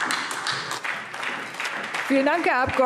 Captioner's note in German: Beifall SPD